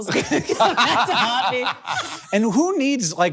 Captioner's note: both laughing